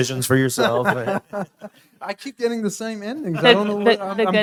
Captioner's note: laughs